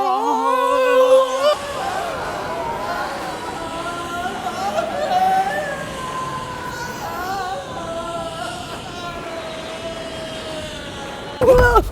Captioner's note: yelling